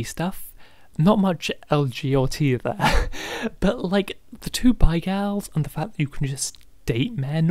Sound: laughing

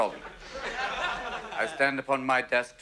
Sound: laughter

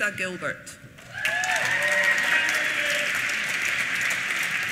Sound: applause

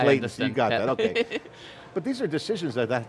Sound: laughs

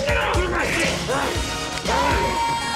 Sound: grunting

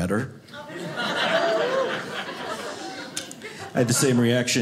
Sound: audience laughing

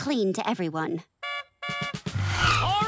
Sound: honking

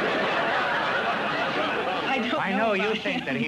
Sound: laughter

